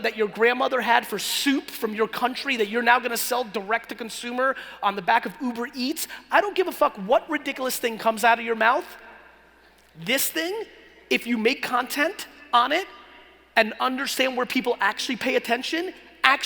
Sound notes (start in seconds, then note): none